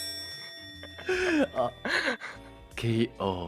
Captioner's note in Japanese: チーン